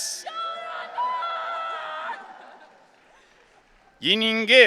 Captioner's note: audience cheering